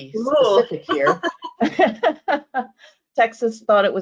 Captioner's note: both laughing